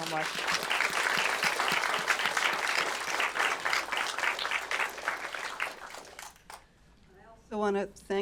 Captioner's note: applause